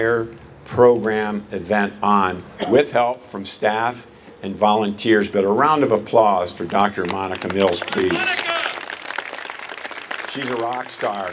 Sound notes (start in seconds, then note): 6.5 applause